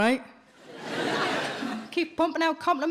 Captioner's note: audience laughs